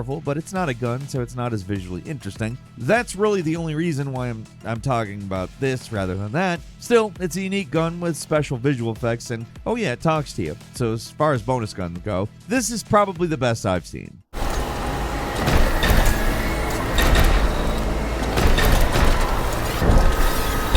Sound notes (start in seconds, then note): 14.3 electronic clanking; 14.4 dramatic music